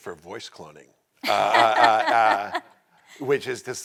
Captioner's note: all laughing